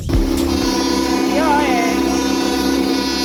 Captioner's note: horn